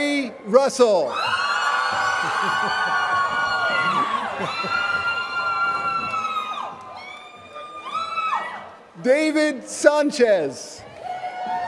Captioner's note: laughter